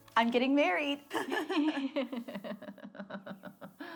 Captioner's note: laughs